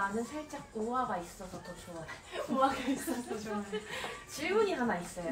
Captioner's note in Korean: 웃음